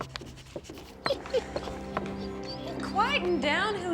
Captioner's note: dog whimpering